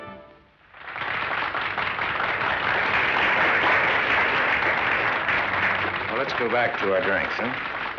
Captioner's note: clapping